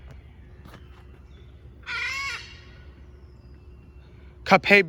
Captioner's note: screeches